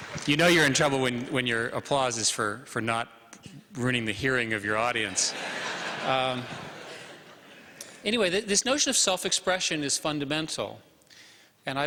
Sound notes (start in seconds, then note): 0.0 applause; 5.0 laughter